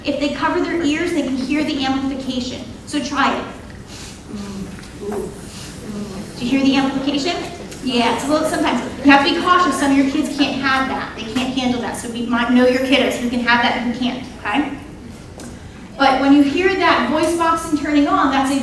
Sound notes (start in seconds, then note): 4.3 audience imitating sounds